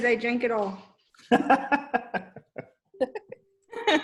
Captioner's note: laughs